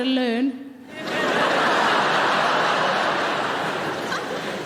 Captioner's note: audience laughing